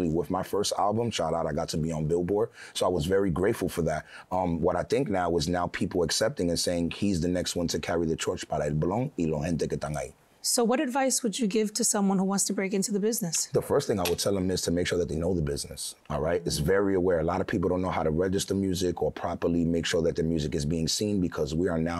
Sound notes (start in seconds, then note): 9.2 speaking foreign language